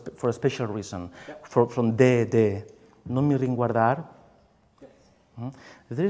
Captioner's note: speaks in foreign language